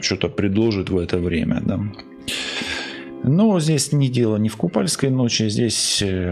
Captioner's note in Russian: тяжело вздыхает